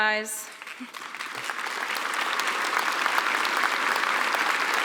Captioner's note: applause